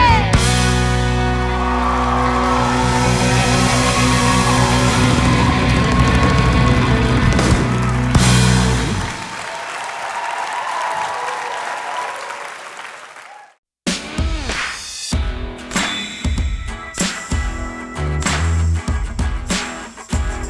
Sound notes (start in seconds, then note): 2.0 upbeat country music; 9.9 crowd cheers and applauds